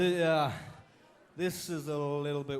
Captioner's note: crowd chatter